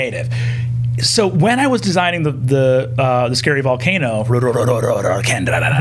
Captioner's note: growling